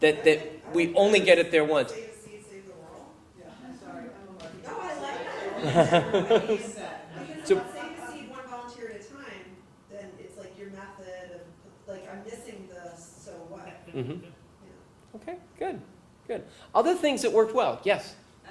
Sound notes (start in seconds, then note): 5.0 laugh